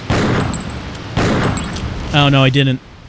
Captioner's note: explosion